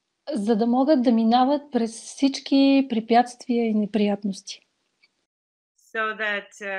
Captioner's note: foreign Language followed by English Interpreter